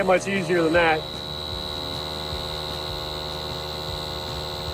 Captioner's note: equipment buzzing